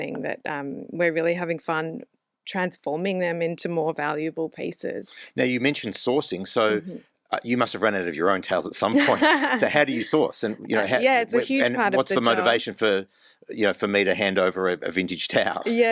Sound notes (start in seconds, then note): 8.8 laughs; 15.3 laughs